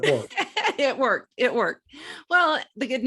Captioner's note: laughs